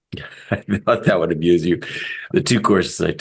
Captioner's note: laugh